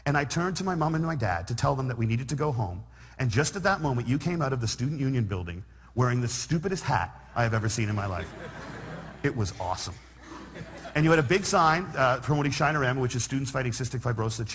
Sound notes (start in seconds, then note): 8.0 laughter